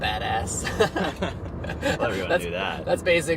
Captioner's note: laughing